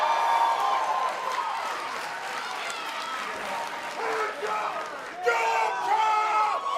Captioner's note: cheers and applause